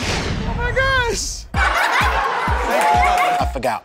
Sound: laughter

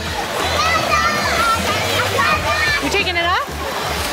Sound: shouting in the background

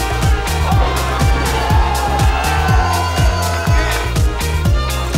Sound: crowd cheering

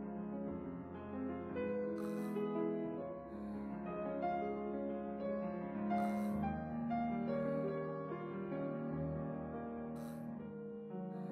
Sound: squealing

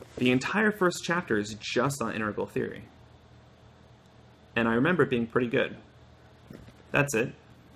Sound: flips pages

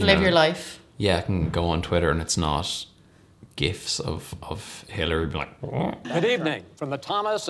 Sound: mock-speech sound

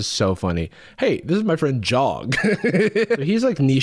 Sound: laughs

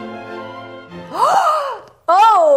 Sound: gasps

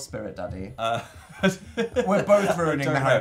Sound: laughs

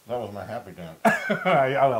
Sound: laugh

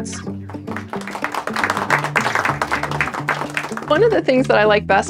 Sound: clapping

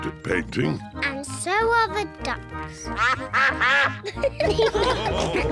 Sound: quacking; all laugh

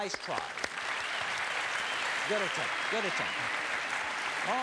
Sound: audience applauds

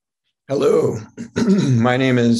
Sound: clears throat

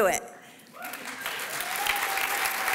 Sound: applause

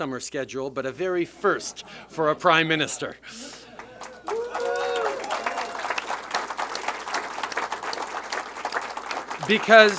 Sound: applause

